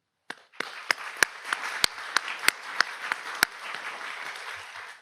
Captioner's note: audience applauds